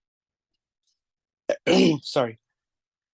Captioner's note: clears throat